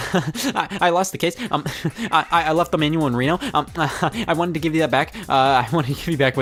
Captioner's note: chuckles